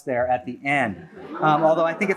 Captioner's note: laughter